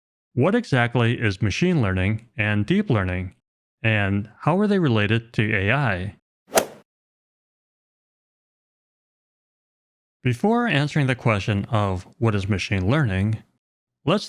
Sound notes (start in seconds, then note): 6.5 golf swing sound effect